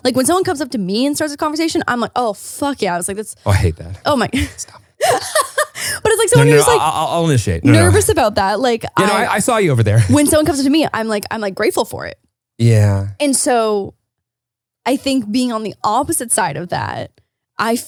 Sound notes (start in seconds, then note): 5.0 laughs